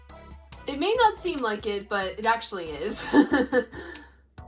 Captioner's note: laughs